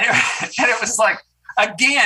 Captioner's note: senator chuckles